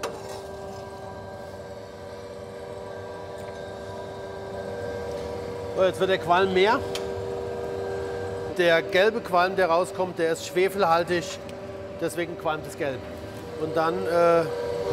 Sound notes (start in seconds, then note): 2.2 machine noise